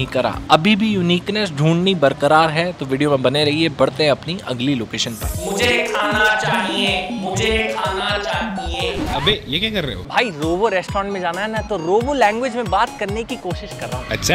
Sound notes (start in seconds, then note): 6.0 in robotic voice